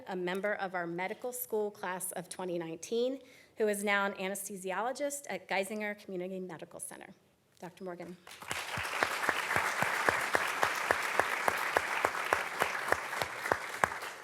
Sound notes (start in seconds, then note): 8.2 audience clapping